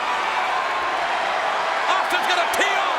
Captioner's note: crowd cheers